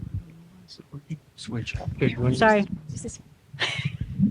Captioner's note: laughter